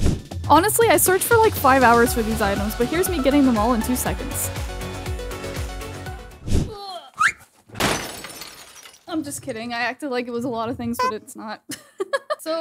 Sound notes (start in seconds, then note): 0.0 screen swoosh; 4.4 upbeat music; 6.2 screen swoosh; 7.7 glass breaking